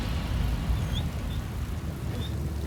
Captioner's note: dog whining